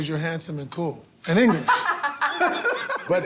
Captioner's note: laughter